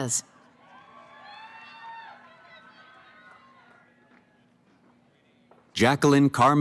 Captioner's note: cheering